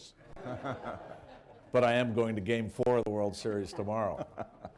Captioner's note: laughter